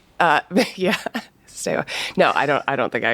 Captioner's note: laughs